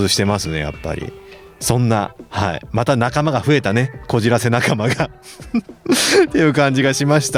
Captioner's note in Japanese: 笑い